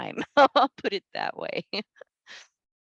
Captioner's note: laughs